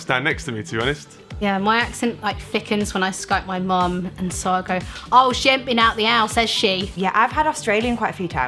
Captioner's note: speaks with a heavy accent